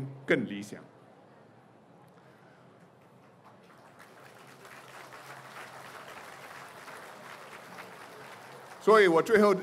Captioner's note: applause